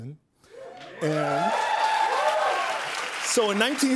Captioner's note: cheers and applause